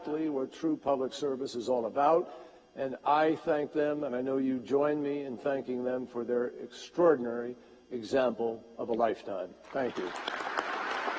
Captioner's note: applause